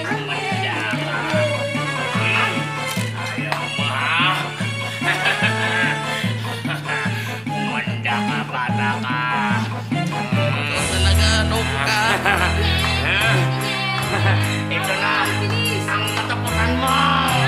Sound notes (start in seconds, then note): 3.1 chuckles; 12.6 Gabby jeers